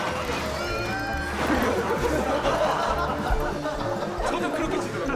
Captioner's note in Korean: 웃음소리